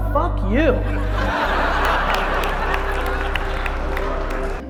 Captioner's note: audience laughter